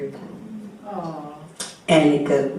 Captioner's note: audience member: Awwww